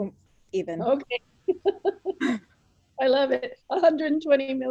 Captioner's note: laughing